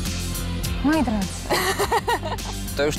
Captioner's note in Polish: śmiech